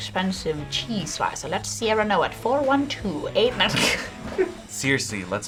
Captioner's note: laughs